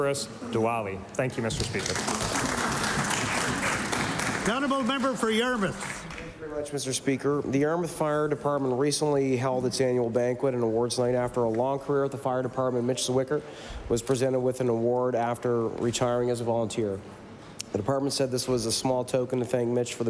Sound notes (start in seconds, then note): 6.2 applause